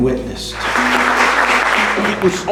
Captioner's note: applause